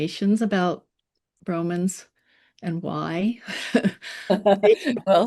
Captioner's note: chuckles; laughs